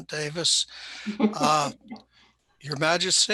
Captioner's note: laughs softly